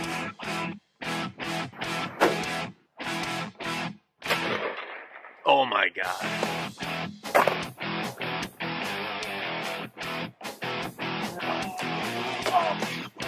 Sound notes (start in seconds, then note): 0.1 fast exciting music; 2.2 gunshot; 3.1 fast exciting music; 4.2 gunshot; 7.3 gunshot; 7.6 fast exciting music